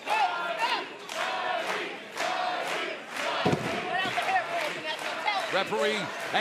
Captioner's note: fans chanting